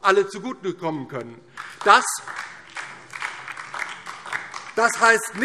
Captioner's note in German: Beifall DIE LINKE